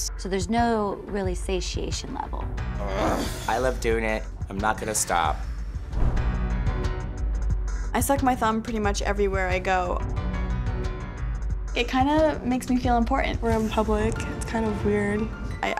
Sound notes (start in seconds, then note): 2.8 grunts